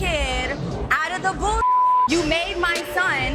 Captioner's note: beep